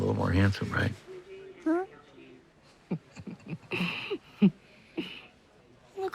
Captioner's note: laugh